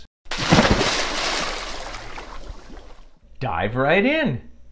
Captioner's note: water splashing